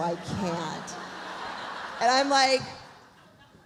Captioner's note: audience laughs